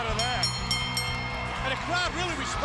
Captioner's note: bell chimes